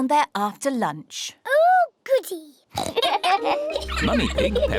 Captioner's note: oinks; both laugh